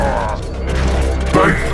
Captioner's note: groaning